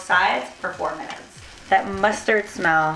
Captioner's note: sizzling